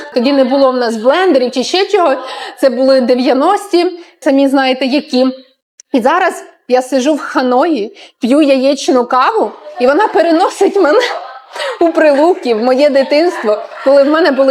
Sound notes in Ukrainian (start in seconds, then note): 9.4 сміх